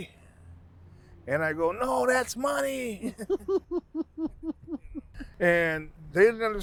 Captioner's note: laughing